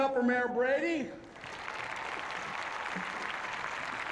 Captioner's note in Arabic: تصفيق